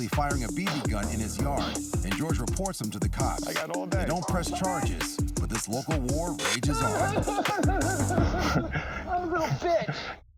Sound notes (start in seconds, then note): 7.8 laughs